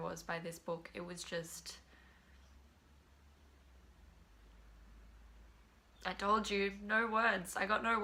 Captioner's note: silence